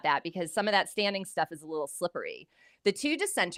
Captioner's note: none